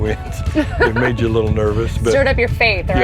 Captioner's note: both laugh